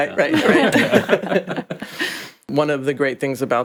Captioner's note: all laughing